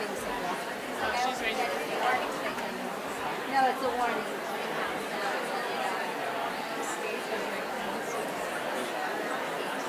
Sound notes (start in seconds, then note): 1.8 woman quietly speaking